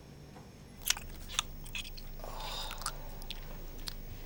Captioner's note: chewing